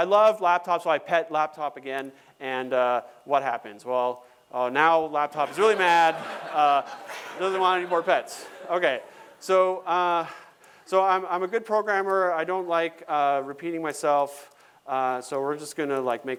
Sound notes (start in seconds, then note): 5.4 laughter